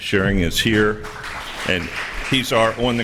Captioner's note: applause